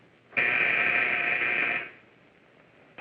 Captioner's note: buzzing